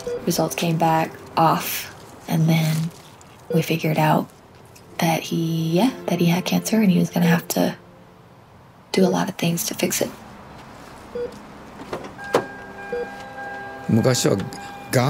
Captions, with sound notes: Results came back off, and then we figured out that he, yeah, that he had cancer, and he was gonna have to do a lot of things to fix it. (machine beeping) (speaker beeping)